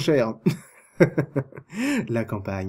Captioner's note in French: rires